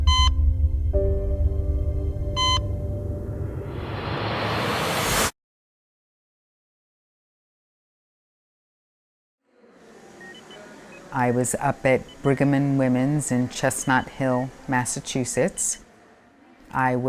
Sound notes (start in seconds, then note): 0.0 dramatic music continues; 0.2 monitor beeping; 2.9 air whooshing; 10.8 monitor beeping